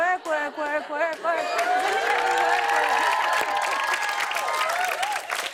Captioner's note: cheers and applause